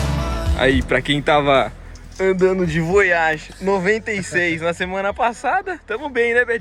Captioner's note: car